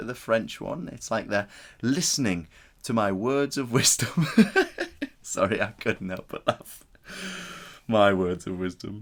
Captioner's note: laughs